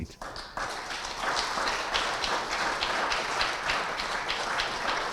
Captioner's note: audience applauding